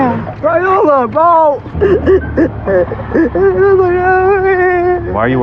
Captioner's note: cryining